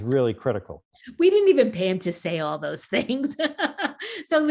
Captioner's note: chuckles; laughing